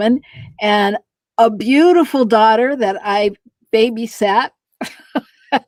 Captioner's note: laughter